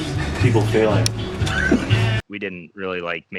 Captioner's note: laughs